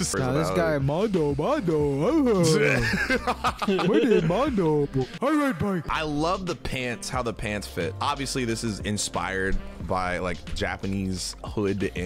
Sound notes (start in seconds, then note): 2.4 laughing